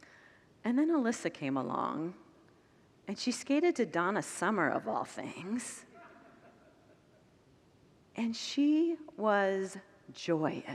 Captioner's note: congregants laugh